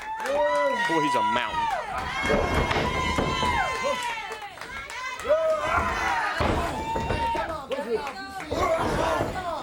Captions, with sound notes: >> LOOK AT THE BARBARIAN. >> [CROWD CHATTER] >> BOY, HE'S A MOUNTAIN. >> [CROWD CHEERING] >> COME ON, BARBARIAN.